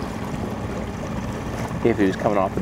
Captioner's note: water sloshing